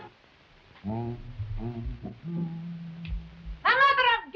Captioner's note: Uncle Pio humming